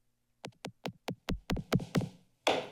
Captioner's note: tapping sound; gavel taps